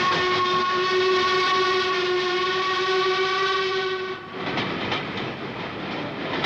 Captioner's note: train horn